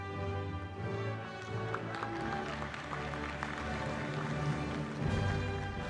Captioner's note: applause